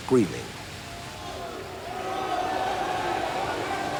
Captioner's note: men screaming